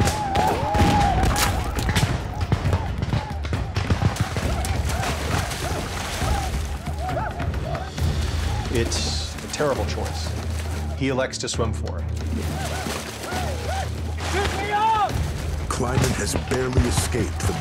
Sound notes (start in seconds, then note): 0.0 gunshots; 0.1 arikara war cries; 4.0 splashing; 12.3 arikara war cries